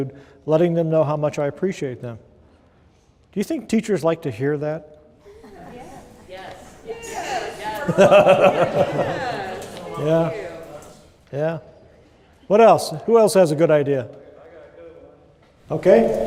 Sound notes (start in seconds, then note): 7.6 laughter